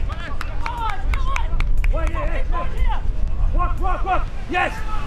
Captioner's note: players cheering